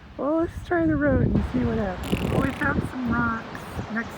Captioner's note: makes fart sounds